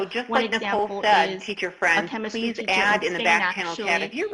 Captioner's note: murmurs